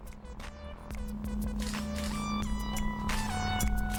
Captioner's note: camera shutter